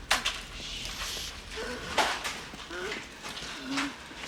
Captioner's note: Towers Gasping